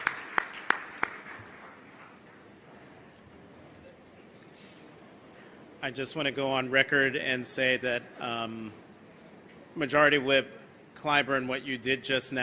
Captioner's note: applause